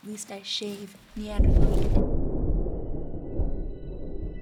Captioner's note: thunder